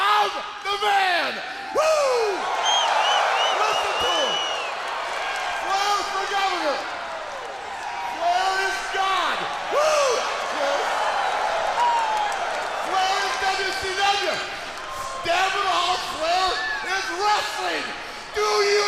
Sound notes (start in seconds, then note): 10.6 crowd cheering